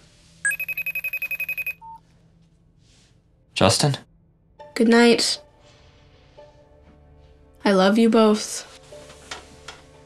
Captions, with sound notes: (phone ringing) (phone beeps) Justin? Goodnight. I love you both.